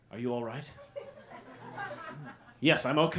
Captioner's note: laughter